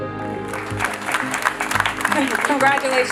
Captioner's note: crowd clapping